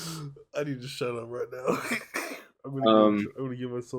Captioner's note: laughs